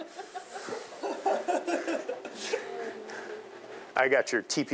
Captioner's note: students laughing